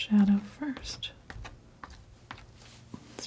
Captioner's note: scratching